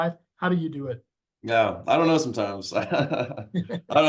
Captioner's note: chuckles